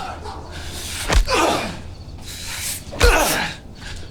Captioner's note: punches thudding; nazi groaning